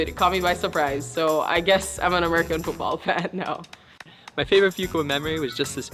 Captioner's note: laughs